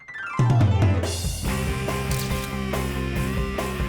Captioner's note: camera clicks; lighthearted music